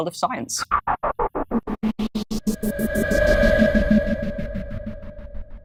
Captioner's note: choppy, futuristic sound